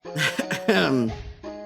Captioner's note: clears throat